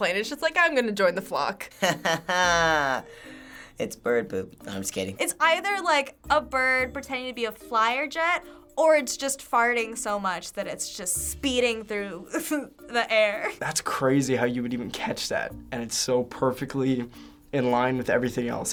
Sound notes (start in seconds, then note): 1.9 laughs